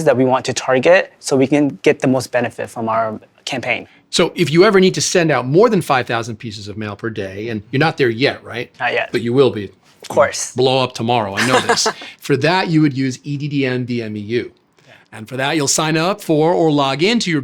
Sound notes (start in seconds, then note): 11.3 laughing